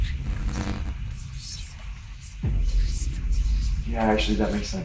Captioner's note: sinister whispering